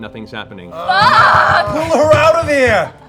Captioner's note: cursing